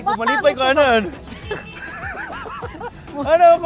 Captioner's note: both laugh